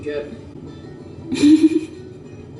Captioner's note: laughs